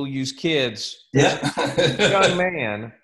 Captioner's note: laughs